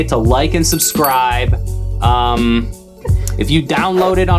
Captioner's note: bell dings